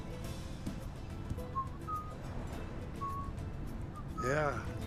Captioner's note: Manuelo whistling